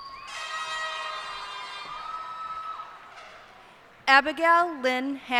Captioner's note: cheers and applause